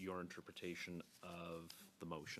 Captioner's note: speaking French